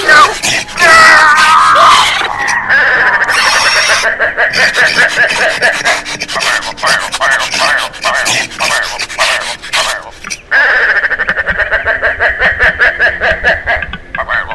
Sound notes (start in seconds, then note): 2.0 bird Sounds